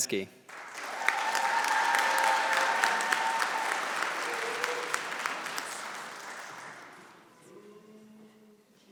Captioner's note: applause